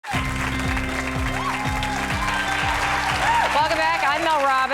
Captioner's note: audience clapping